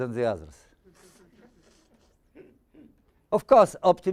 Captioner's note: audience chuckling